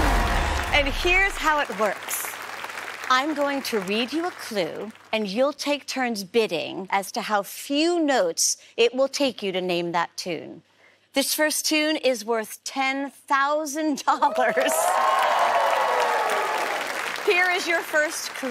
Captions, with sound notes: And here's how it works. I'm going to read you a clue. And you'll take turns bidding as to how few notes it will take you to name that tune. This first tune is worth $10,000. [cheering] Here is your first clue.